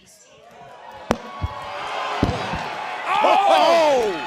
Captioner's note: crowd cheering